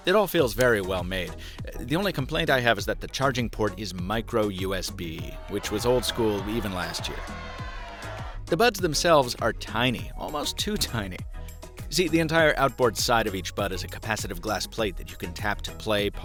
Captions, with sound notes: It all feels very well made. The only complaint I have is that the charging port is Micro-USB (people moaning) which was old-school even last year. The buds themselves are tiny, almost too tiny. See, the entire outboard side of each bud has a capacitive glass plate that you can tap to play,